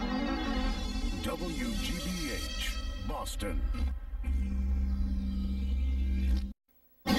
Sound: neon electricity zapping

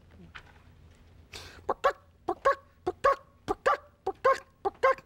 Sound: clucking

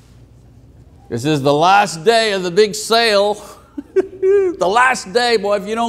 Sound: laughing

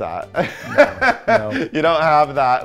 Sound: laughs

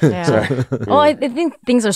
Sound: laughs

